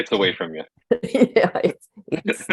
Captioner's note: laughter